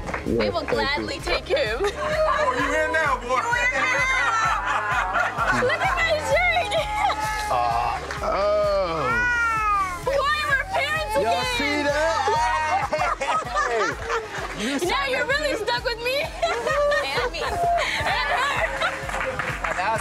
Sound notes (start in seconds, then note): 2.1 yelling